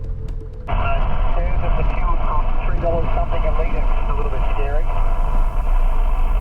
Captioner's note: over HF radio